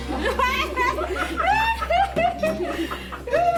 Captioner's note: women laughing